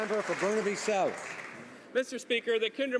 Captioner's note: some Applause